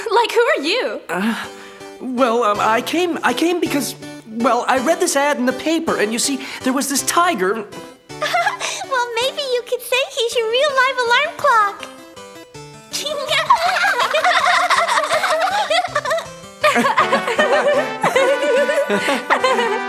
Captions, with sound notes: - Like, who are you? - Well, I came because, well, I read this add in the paper, and you see, there was this tiger, and- - Well, maybe you could say he's your real life alarm clock. (giggling) (laughing)